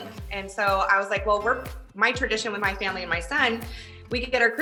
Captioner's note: none